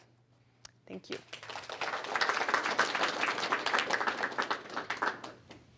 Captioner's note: applause